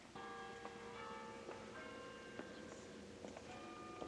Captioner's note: bells Pealing